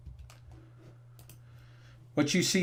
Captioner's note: mouse clicking